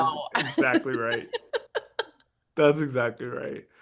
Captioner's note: laugh